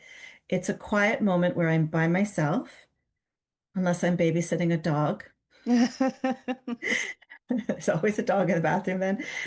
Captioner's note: both start to laugh